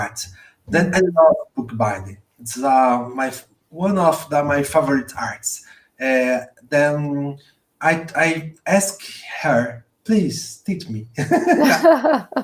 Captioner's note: laughs